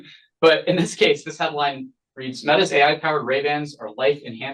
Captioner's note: laughs